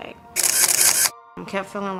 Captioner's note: camera shutter clicking